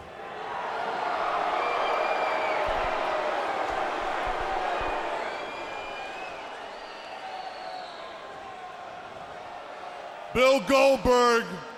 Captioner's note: crowd chatter